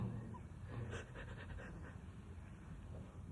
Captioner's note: laughs